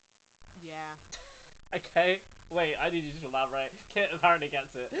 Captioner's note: laughing